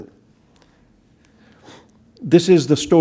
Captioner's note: pause